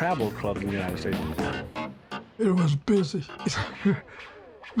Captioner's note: chuckles